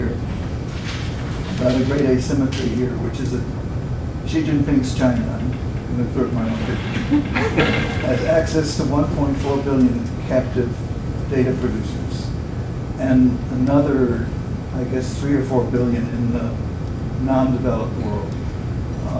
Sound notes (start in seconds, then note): 6.9 laugh